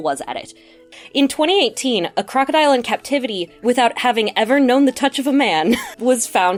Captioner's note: laughs